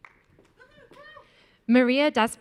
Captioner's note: audience cheering